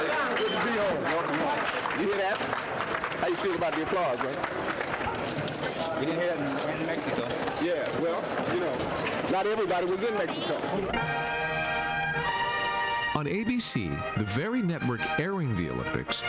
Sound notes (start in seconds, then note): 4.6 applause